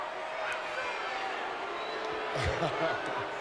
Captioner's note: crowd chattering; Batista chuckling